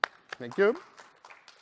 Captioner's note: applause